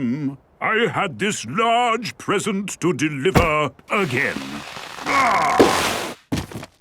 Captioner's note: groaning